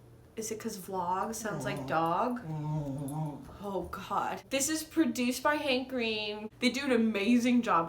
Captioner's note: dog whining